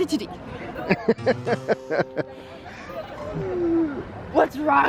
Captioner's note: laughing